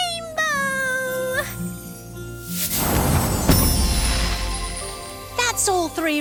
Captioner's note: magical whoosh